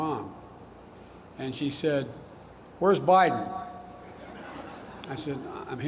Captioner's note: laughter